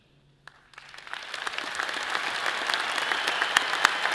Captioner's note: all applauds